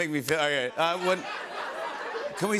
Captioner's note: laughter